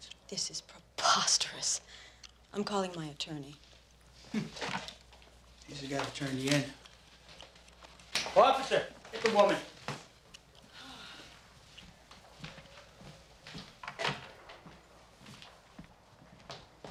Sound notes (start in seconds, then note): 4.2 chuckles; 10.7 sighs heavily